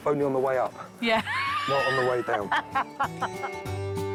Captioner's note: laughing